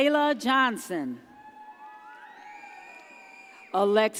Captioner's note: audience cheers